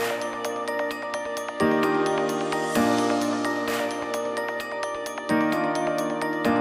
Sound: applause

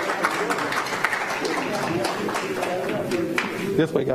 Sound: applause

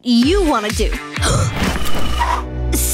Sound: gasping

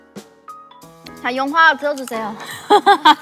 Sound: laughs

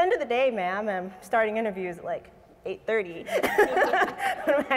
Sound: laughs

